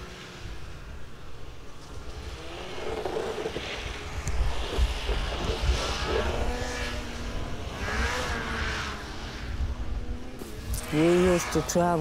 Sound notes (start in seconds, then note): 2.6 skidoo buzzing